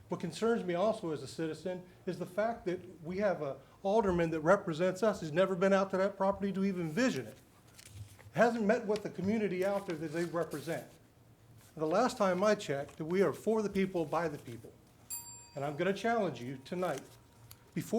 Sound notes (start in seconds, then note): 15.0 bell dings